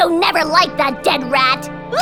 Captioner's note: sobbing